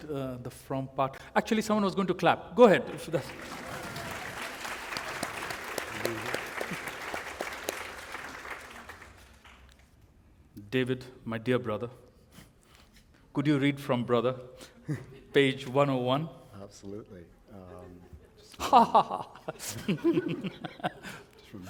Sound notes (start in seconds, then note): 10.3 applause; 17.8 laughter